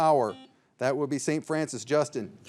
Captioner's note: signal beeps